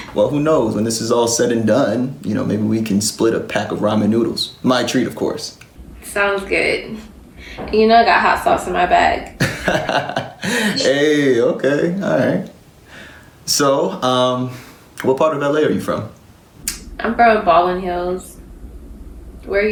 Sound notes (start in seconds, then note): 9.3 laughs